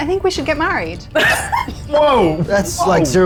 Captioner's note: laughing